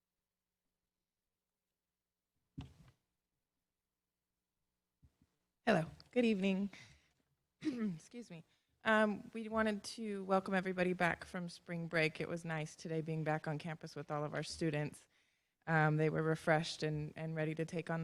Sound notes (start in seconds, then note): 7.6 chuckle; 7.6 clears throat